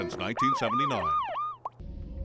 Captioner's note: alarm wails